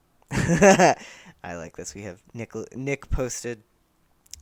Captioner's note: laughter